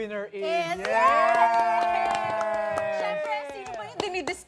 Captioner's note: cheering, clapping